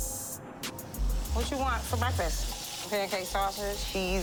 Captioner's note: sizzling